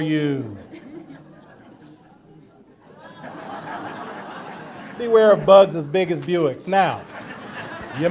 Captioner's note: audience laughter